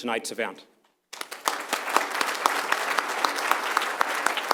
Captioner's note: applause